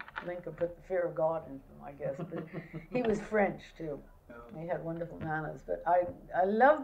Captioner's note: laughter